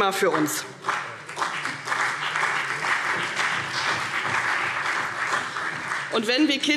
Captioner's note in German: Beifall CDU und BÜNDNIS 90/DIE GRÜNEN